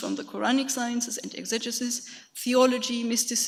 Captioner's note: speaks foreign language